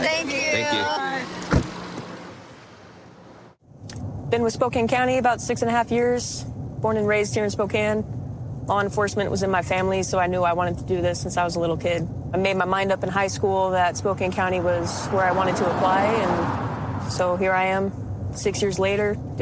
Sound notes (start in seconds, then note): 0.8 car door closes